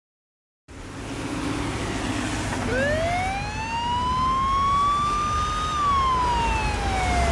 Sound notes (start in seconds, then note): 2.6 police siren wailing